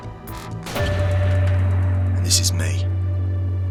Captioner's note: dramatic noise